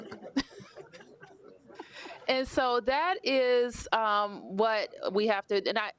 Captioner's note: laughter